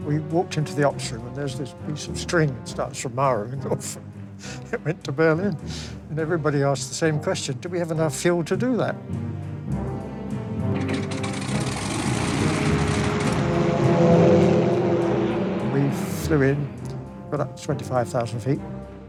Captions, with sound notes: - We walked into the Hunsdon and there's this piece of strings starts tomorrow and off we went to Berlin. And everybody asks the same question, "Do we have enough fuel to do that." (plane engine starting) (buoyant music) We flew in, for that 25,000 feet,